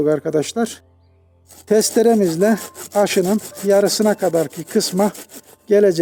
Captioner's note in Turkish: testere kesim sesleri, kırt kırt kırt; testere kesim sesleri kırt kırt kırt